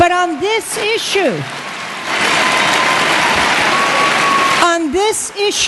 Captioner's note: cheering and Applause